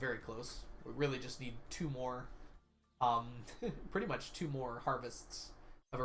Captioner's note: chuckles